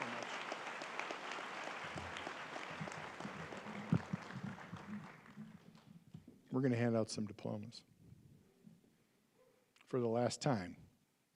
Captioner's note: applause